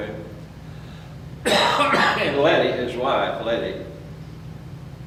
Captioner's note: coughs